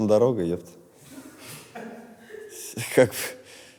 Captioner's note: laughter behind the camera